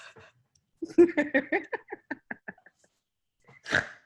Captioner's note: laughs